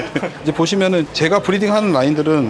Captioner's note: laughs